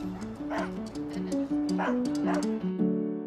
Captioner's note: dogs barking